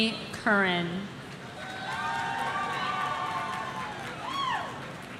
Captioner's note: audience cheering